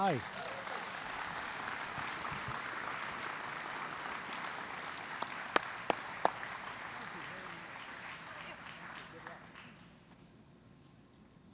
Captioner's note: applause